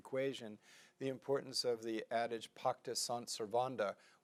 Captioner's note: speaking in foreign language